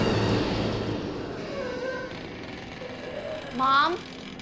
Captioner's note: eerie breathing; creaking